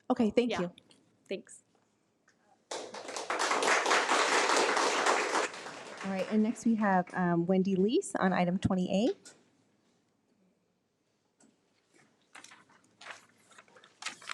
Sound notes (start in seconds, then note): 2.7 attendees applaud